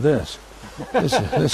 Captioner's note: laughing